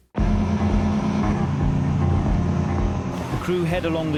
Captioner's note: engine roars